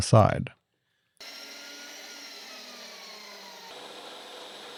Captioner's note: machine whirring